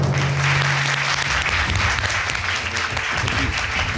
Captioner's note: applauding